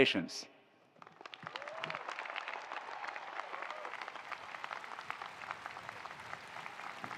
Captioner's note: attendees applauding; attendees cheering